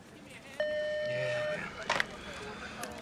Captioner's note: phone beeps